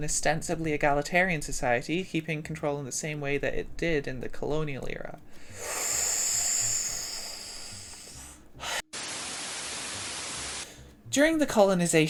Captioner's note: buzzing noises